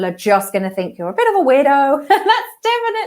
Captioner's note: laughing